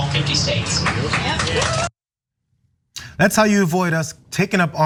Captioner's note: applause